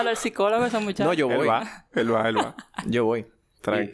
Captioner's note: laughs